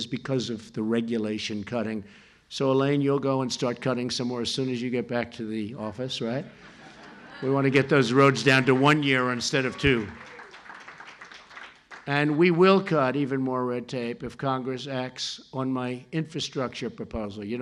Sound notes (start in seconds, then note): 6.5 laughter and applause